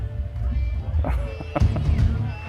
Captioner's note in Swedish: skratt